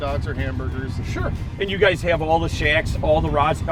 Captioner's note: voiceover